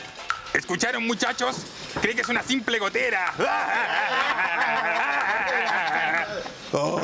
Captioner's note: everyone laughs